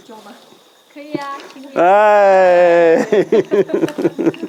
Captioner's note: laughter